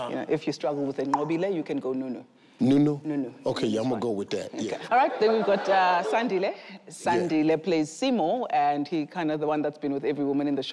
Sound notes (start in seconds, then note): 4.7 audience laughs